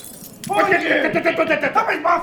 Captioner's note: glass shattering; both yelling